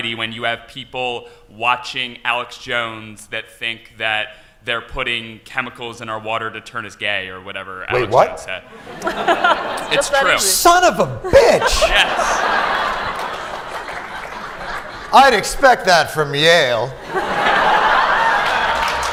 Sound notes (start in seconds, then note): 8.7 laughter; 17.0 laughter